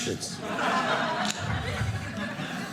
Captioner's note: audience laughing